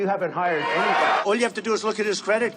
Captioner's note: crowd clamoring